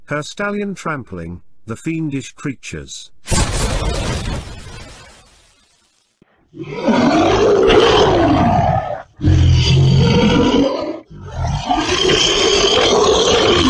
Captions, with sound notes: Her Stallion Trampling The Fiendish Creatures! (Cannon Fire) (Monsters Roaring)